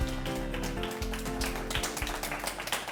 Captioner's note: applause